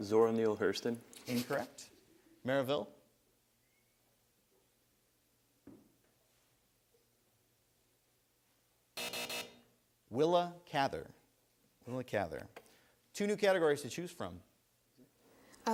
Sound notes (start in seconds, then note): 9.0 buzzer sounds